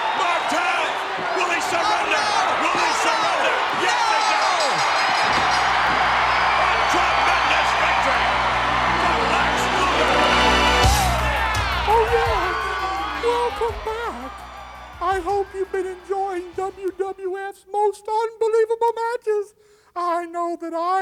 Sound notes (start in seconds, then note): 4.3 bell dinging; 4.3 crowd cheering; 10.1 upbeat music